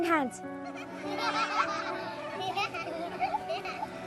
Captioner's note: children laughing